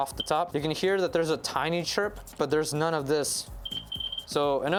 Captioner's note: loud chirping